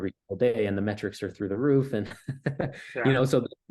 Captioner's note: laughs